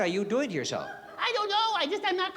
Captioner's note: baby voice